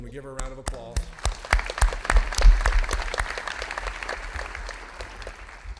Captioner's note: audience applauding